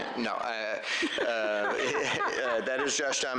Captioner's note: laughter